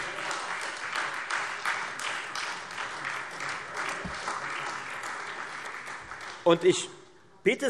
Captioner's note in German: Beifall Freie Demokraten und AfD